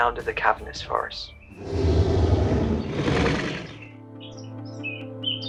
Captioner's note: creature growling; light music